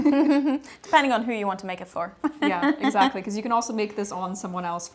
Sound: laughs; laughs

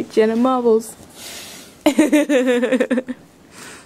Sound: laughs

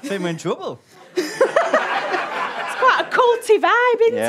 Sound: audience laughter

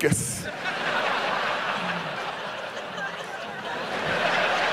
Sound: audience laughs

